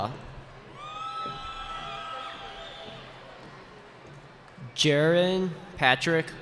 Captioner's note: cheering